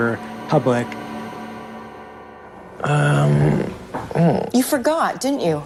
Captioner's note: soundbite of archived recording